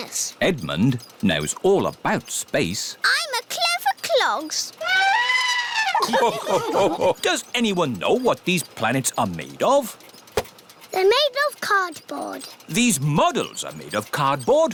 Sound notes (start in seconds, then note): 4.8 trumpets; 4.9 all laugh